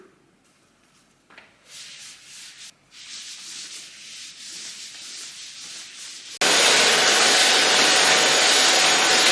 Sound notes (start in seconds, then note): 1.6 scrubbing sounds on floor; 6.4 vacuum blares